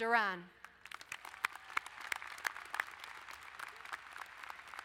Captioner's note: applauding